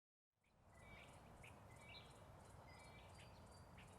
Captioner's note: birds chirping